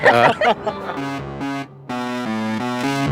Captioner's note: laughter